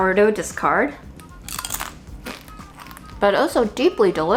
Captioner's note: chip crunching